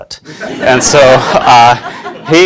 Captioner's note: class laughing